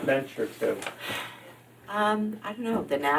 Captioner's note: sighs